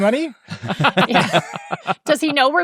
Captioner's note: all chuckle